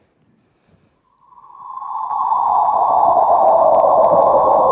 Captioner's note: black hole sound